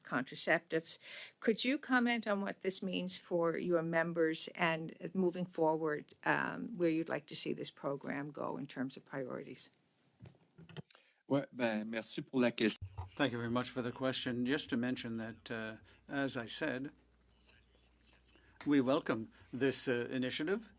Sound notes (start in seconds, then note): 17.2 speaking French